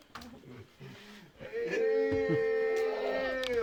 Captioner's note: villagers cheering; speaking Yanomami